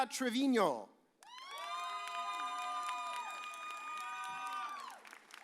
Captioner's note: audience cheers